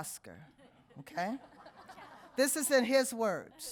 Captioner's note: audience laughing